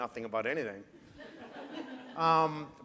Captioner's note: laughter